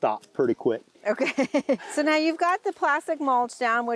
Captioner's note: laughs